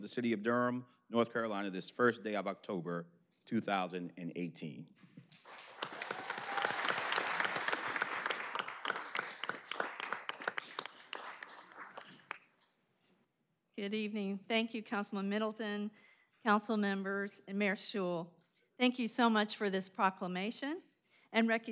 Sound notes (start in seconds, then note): 7.5 applause